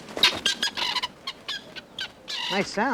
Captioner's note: birds squawking